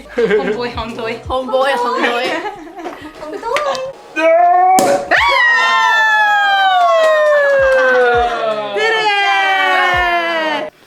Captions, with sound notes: Homeboy Hong Doy! (Laughs) (Grunts) (Cheers) We did it!